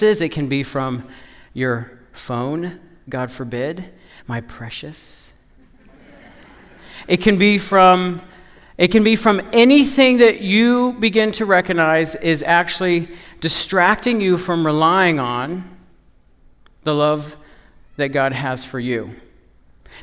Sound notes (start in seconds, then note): 5.6 laughter